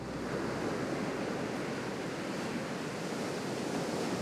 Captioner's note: waves crashing